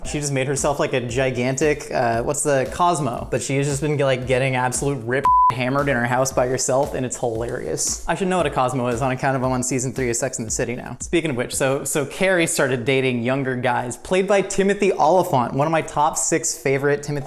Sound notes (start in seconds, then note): 5.2 beep